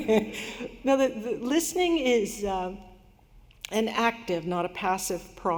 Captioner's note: laughter